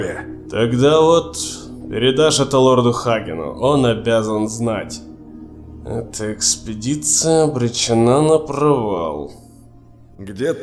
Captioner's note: muttered to himself